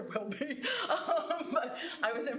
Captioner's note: laughs